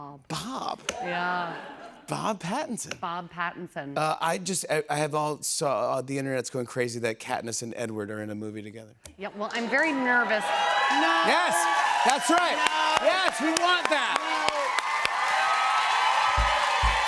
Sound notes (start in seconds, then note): 10.2 cheers and applause; 15.3 cheers and applause continues